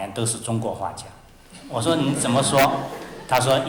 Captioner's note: laughter